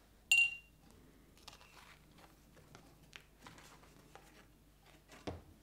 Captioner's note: paint brush clinks in glass holder